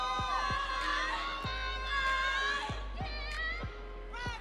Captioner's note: audience cheering